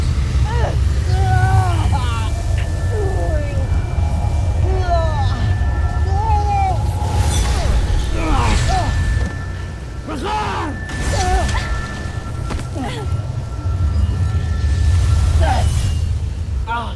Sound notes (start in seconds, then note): 0.0 grunts & groans; 0.0 powerful whoosh-crackle; 0.4 guttural cry of pain; 6.8 grunts & groans; 10.4 powerful splash; 13.1 groans; 14.1 evil energy whoosh & crackle; 14.1 grunts; 16.7 groans